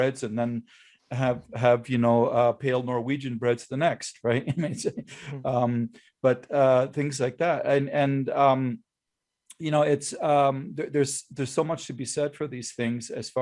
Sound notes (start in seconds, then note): 4.3 laughs